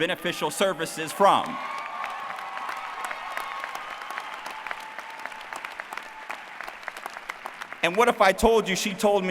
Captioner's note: applause